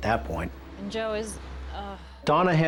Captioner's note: sighs